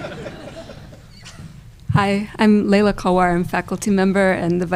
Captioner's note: laughter